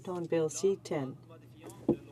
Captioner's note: speaking in French